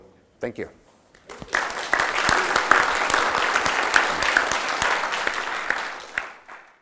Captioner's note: applause